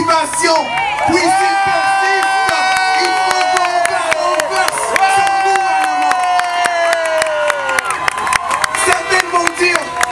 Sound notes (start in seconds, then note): 5.9 applause